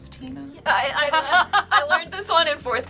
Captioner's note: laughs